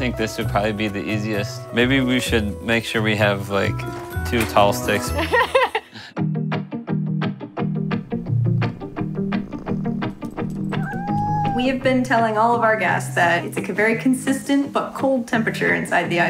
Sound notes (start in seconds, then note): 5.3 laughs